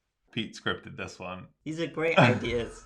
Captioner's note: laughing